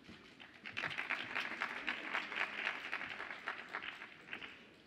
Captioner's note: audience applauds